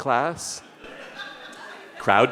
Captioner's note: audience laughing